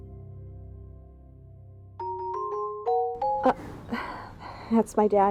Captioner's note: phone rings